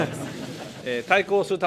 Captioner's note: laughter